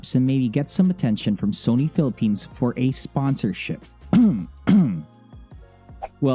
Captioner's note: cough cough